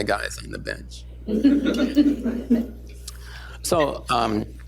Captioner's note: laughter